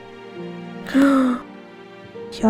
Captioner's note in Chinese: 吸氣